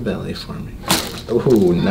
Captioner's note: bones cracking